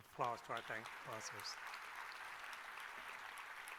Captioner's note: applause